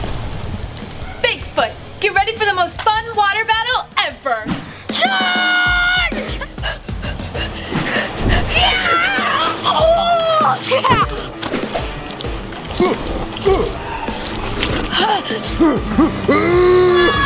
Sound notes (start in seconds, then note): 6.2 panting heavily; 8.5 shouts; 12.5 Bigfoot grunting; 14.6 pants; 15.4 Bigfoot roars